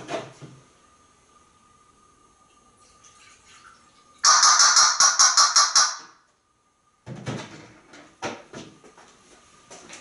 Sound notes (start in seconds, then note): 4.2 Einstein makes the banging sound